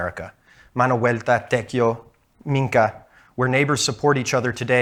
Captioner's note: speaking in Spanish